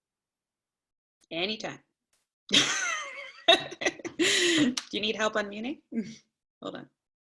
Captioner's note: laughter